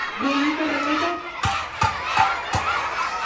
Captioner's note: metal pan hitting